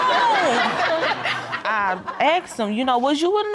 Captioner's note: audience laughing